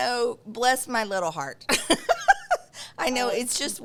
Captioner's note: laughs